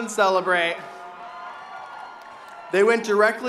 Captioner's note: audience cheering